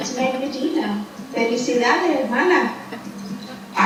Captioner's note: speaking in foreign language